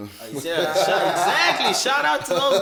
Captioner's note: everybody laughs